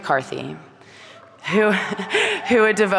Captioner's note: audience cheering